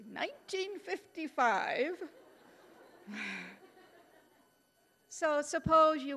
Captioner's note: audience laughing